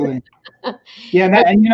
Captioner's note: chuckles